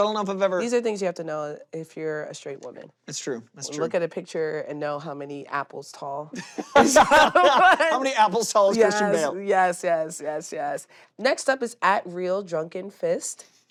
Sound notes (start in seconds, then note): 6.3 both laughing